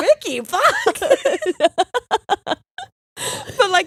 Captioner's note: both laughing